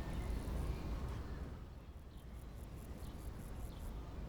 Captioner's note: birds chirping faintly